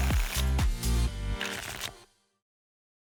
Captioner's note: tickets shuffling; tickets shuffling